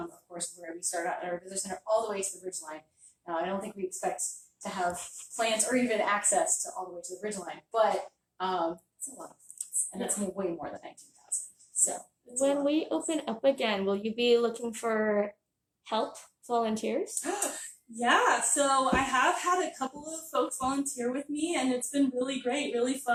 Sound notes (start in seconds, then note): 17.0 gasping